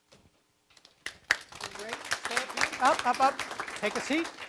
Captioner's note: audience clapping